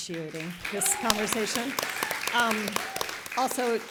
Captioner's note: applause